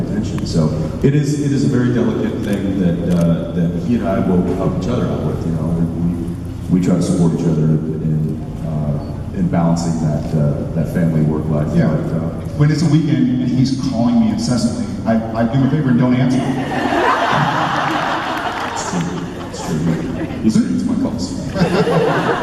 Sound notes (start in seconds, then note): 16.3 crowd laughs